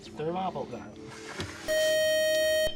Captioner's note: beep